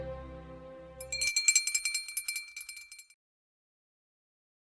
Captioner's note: bell rings